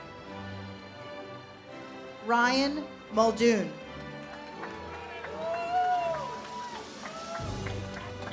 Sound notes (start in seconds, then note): 4.1 audience cheers